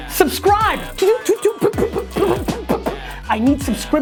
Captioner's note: erratic yelling